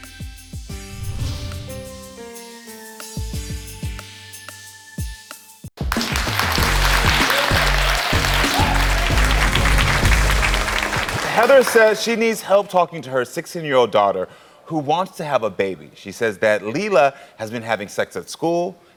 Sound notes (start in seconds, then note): 0.9 suspenseful music; 5.7 upbeat music; 5.8 audience applauding